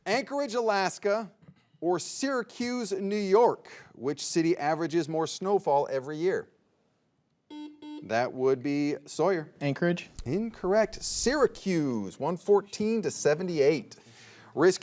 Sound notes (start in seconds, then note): 7.5 soft beeping